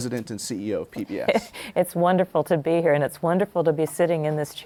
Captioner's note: laughs